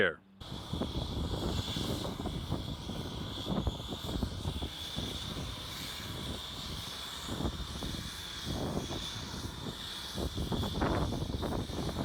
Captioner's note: sound of engine